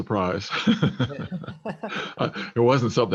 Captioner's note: laugh